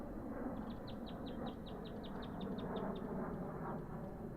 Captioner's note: birds chirping